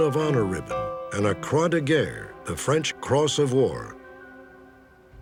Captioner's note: non-english